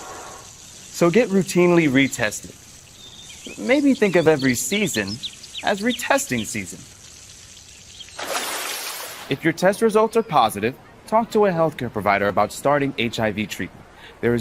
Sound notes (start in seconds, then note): 3.2 birds chirp; 8.2 water splashes